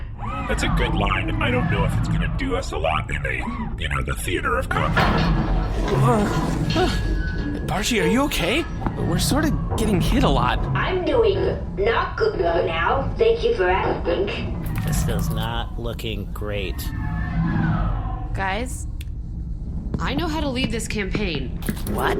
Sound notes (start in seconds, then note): 7.6 objects clattering, Pleck makes unsteady noises; 11.2 audibly glitching